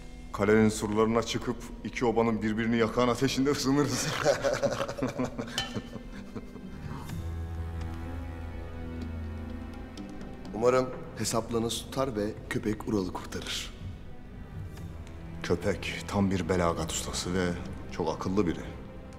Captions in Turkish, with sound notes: ...kalenin surlarına çıkıp iki obanın birbirini yakan ateşinde ısınırız. (Gülme sesleri) (Kadeh vurma sesi) Umarım hesaplarınız tutar ve Köpek, Ural'ı kurtarır. Köpek tam bir belagat ustası ve çok akıllı biri.